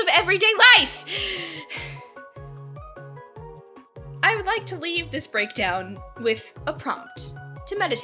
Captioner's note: catches breath